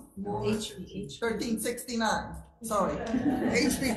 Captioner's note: crowd laughs